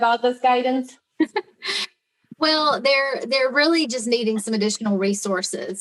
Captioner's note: laughs